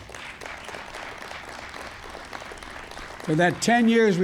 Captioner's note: applause